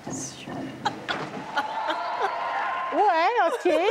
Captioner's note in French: rires